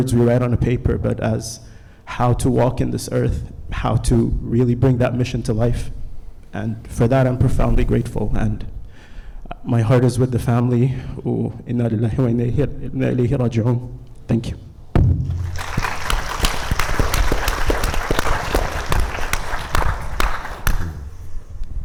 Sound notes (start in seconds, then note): 11.9 speaks Arabic; 15.3 audience applauding